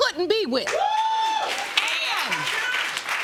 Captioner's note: audience whooping